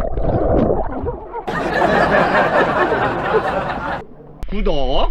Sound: laughing

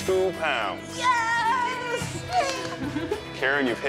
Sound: chuckles

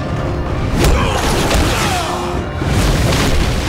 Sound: grunting

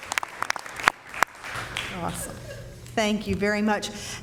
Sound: applause

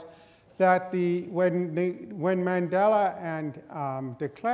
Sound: none

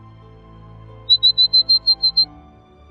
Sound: bird call

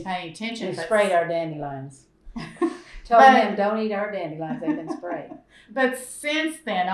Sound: laughter

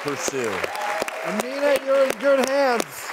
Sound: applause

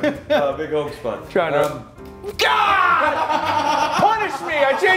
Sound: laugh

